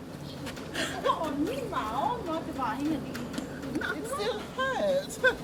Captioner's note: speaking in Tongan